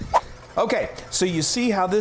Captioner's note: swooping sound